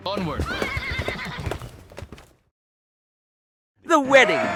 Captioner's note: horses neigh